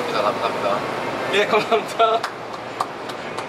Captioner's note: clap